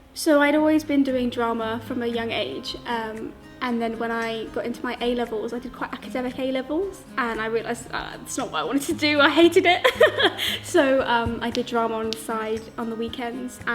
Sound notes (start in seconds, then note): 9.4 laughs